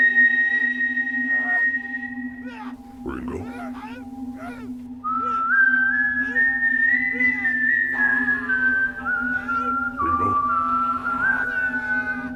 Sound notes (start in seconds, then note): 3.0 painful moans; 5.0 whistling; 11.7 painful moans; 11.7 whistling